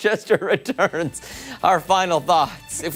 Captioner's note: laughter